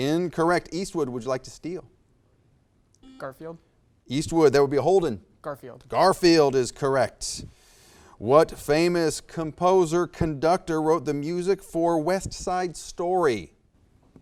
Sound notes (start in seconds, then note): 3.2 buzzer beeps beeps